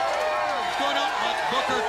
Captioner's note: crowd cheering